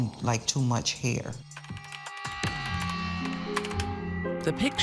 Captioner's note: keys clacking